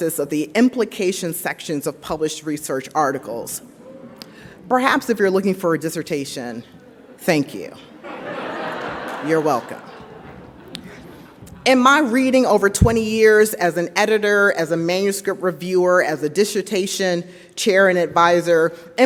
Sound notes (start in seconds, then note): 8.0 audience laughs